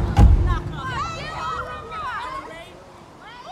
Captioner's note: chatter